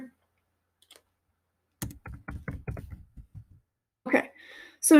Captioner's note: keyboard clicking